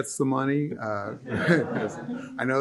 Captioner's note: laughter